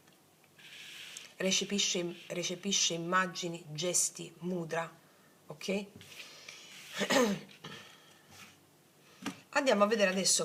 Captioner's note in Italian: schiarire la voce